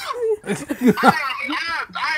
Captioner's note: laughing